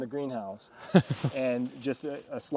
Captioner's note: man chuckling